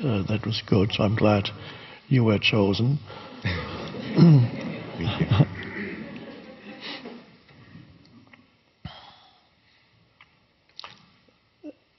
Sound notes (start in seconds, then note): 3.3 audience laughing